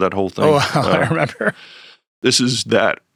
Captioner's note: laughs